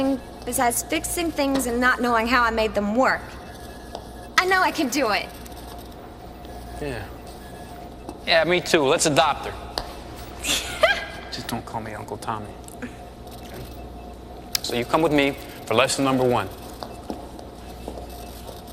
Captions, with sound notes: besides fixing things and not knowing how I made them work. I know I can do it. - Yeah. Yeah, me too. Let's adopt her. - (laughing) - Just don't call me "Uncle Tommy." Okay? So, you come with me for lesson number one.